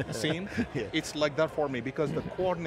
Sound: laugh

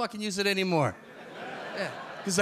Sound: audience laugh

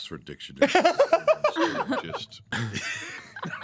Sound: laughing

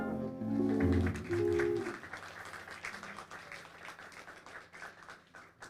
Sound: audience applauding

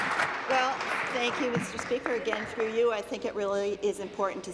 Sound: applause

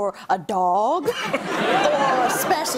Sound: laughter

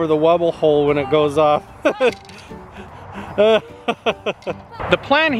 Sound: laughs

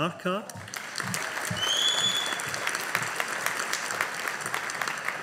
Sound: audience applauding

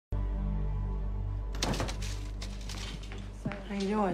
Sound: door opens

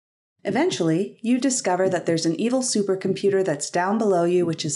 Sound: heartbeat

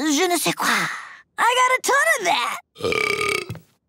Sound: burping

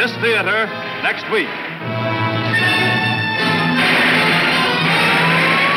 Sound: dramatic music; gun popping

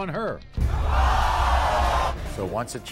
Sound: audience gasps

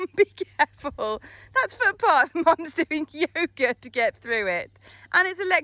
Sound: laughing

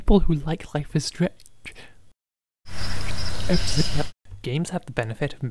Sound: rewind sound which again sounds very apropos

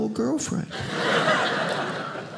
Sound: audience laughing

